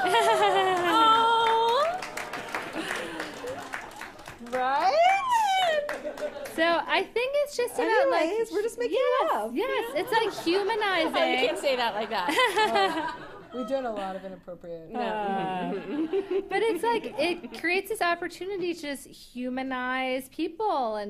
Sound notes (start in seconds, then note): 0.0 laughs; 2.0 laughter; 9.8 laughter; 15.0 laughter